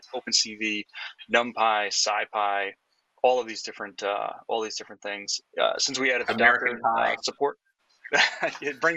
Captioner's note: laughing